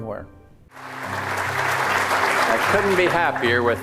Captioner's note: audience applauding